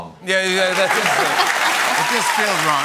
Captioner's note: cheers and applause